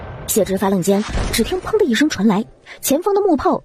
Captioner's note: bang